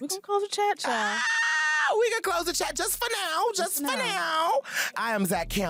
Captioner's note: squeals